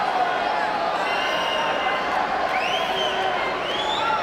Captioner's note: crowd cheering